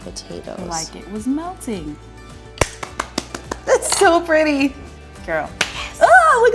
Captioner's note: clapping